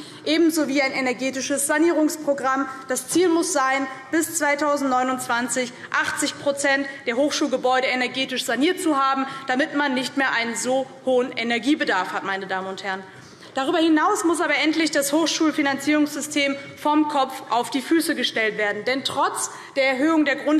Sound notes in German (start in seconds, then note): none